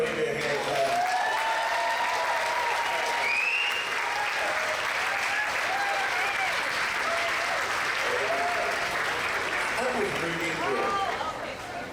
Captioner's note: applause